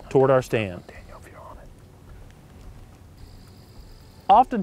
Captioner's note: whispering